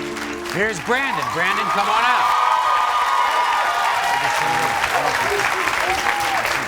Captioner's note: audience cheers